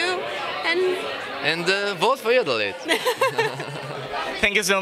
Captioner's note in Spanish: risas